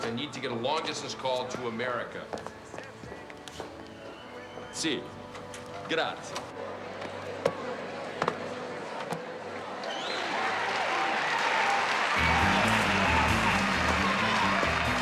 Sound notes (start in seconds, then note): 10.0 applause